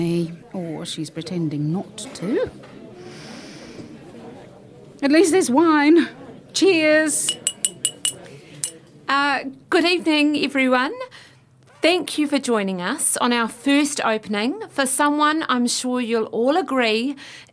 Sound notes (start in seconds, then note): 5.3 tapping of a glass